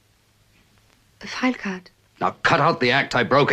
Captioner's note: none